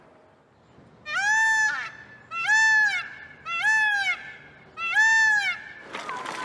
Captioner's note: peacock calling